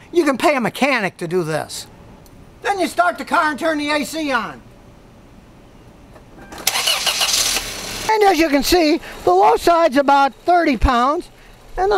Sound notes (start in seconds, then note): 6.5 engine starting